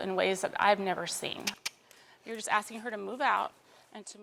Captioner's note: clicks tongue